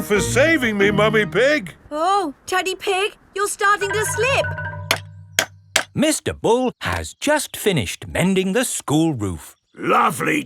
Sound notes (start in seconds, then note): 5.6 clanking